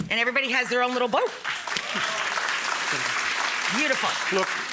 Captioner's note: audience applause